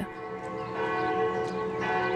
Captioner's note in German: Glockenläuten